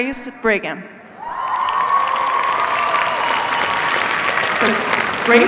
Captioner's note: cheers, applause